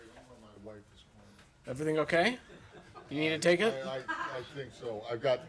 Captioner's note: laughter